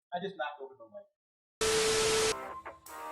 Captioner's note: TV signal buzzing; upbeat music continues